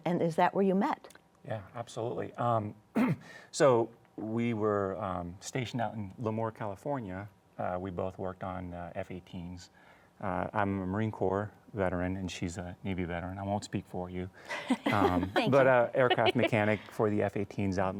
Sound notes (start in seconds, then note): 14.5 laughs